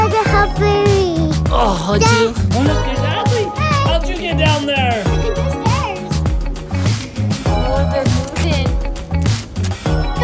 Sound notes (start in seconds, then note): 2.2 grunts; 6.5 upbeat music